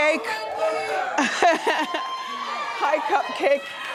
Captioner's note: woman laughs